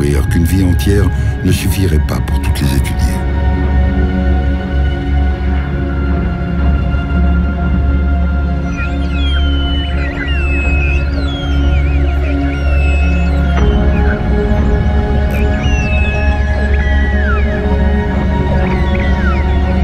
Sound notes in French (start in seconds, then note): 8.8 Chants de cachalots